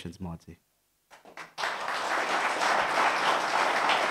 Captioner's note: applause